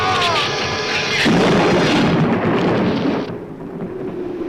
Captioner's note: thunder claps; wind howls